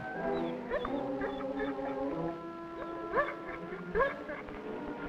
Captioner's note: Rebel whining and barking